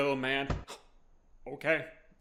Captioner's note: smack